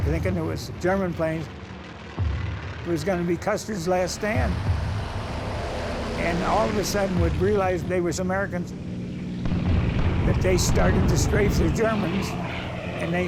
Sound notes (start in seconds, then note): 4.5 plane engines roaring; 9.4 bombs exploding